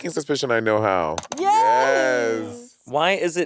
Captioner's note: mouse clicking